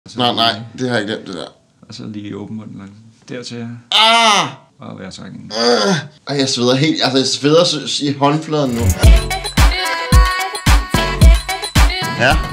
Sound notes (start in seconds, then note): 3.9 screams in agony; 8.6 intro music